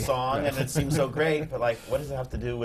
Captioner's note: laughs